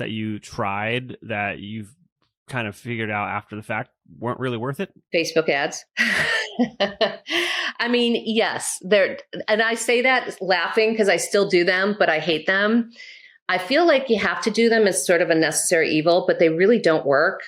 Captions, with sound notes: that you tried that you've figured out after the fact weren't really worth it? Facebook ads (laughs). Yes, they're. And I say that laughing because I still do them but I hate them. I feel like you have to do them as sort of a necessary evil, but they really don't work.